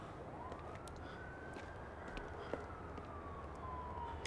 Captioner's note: siren wailing